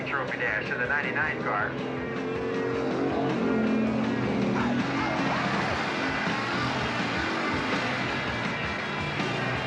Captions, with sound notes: trophy dash in the 99 car. (rock music continues) (engines rumbling)